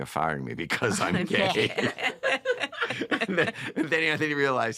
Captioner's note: laughter